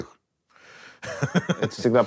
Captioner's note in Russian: смеется